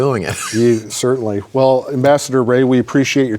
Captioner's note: chuckles